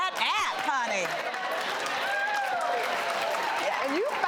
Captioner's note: audience applauding